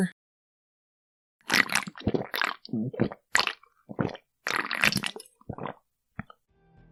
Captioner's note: slurping noises